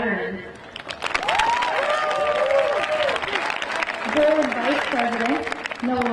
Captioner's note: crowd applauding; crowd cheering